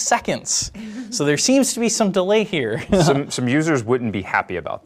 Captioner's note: laughs